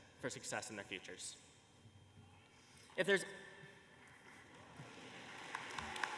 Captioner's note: applause